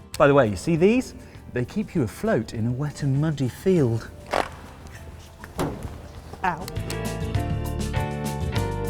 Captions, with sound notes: By the way, you see these? They keep you afloat in a wet and muddy field. (CLUNK) Ow!